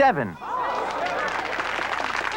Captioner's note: applause